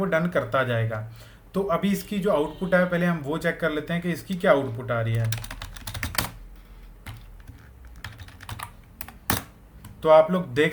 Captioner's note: typing